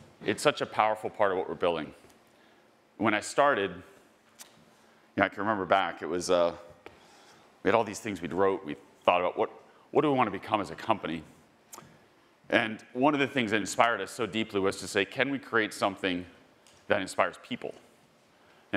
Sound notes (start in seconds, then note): none